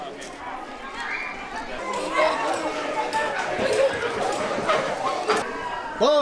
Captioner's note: crowd chatting in foreign language